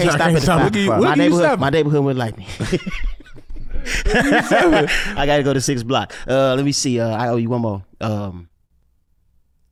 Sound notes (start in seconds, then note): 2.4 group laughs